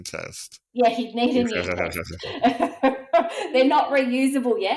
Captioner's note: laughs